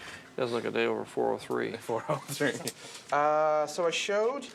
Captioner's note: laughs